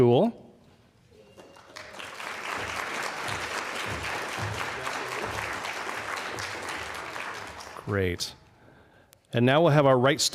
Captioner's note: applause